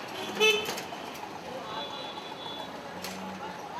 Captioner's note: horn honking